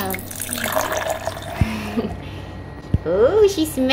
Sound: dog milk sloshing

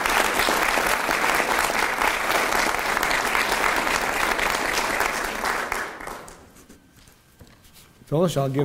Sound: applause from crowd. Sound of pen on paper

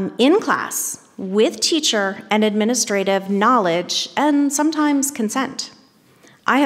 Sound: none

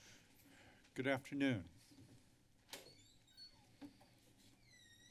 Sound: door opens

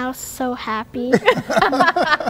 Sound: laughter

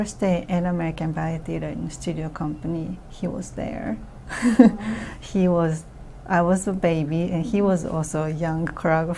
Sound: laughs

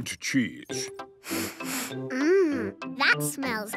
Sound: sniffs

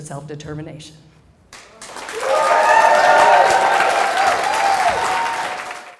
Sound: applause

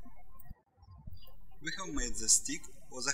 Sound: birds chirping

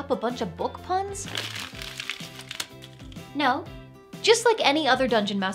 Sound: paper crumpling

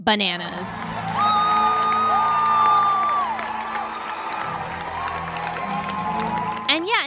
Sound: cheering and clapping

